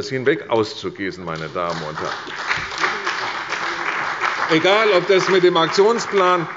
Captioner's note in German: Beifall bei der CDU und dem BÜNDNIS 90/DIE GRÜNEN